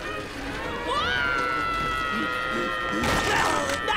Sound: screaming

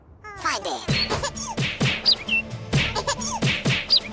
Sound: sound effects play

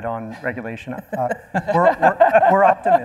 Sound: panel laughing

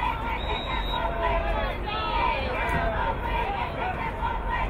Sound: whistle blowing

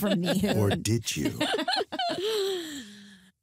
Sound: laughter

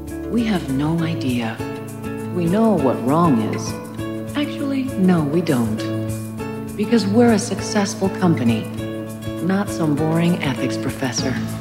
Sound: audio distorted

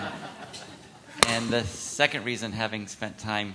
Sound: laughter

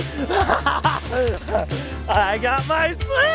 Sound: laughing

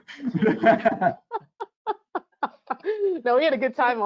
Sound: laughing

